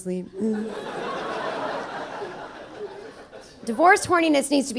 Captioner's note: audience laughing